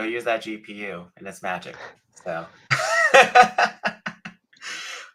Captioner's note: laughs